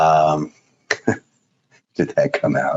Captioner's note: chuckles